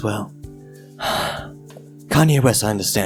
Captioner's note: sigh